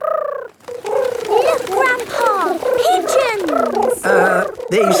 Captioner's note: pigeons cooing